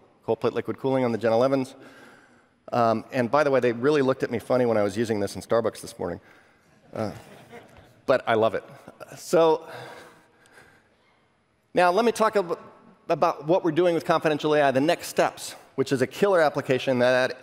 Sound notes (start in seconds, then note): 7.0 laughter